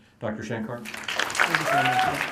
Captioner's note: applause